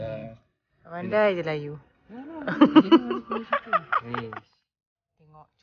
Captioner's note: laugh